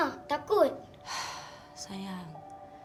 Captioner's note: in Bahasa Melayu